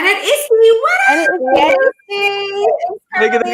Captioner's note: excited crosstalk cheering